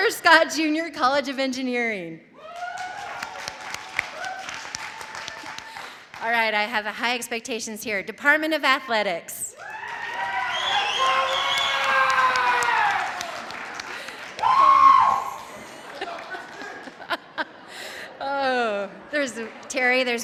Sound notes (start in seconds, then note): 2.4 audience cheering; 2.4 audience applauding; 10.0 audience applauding; 10.0 audience cheering; 15.1 laughs